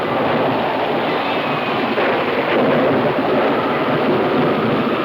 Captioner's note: thunder claps